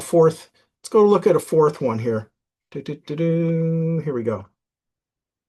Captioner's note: hums